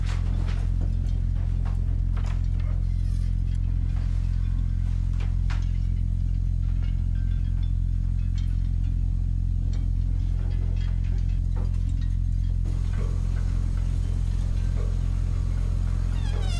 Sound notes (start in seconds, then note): 10.4 door creaks